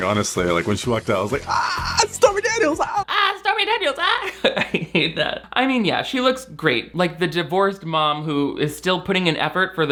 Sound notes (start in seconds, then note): 1.4 grunts; 3.2 grunts; 4.5 laughs